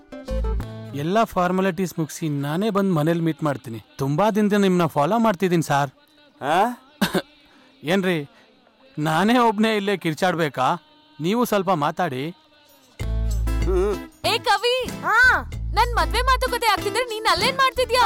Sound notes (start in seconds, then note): 7.0 coughs